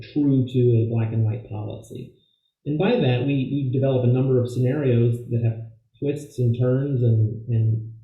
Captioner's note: voice Low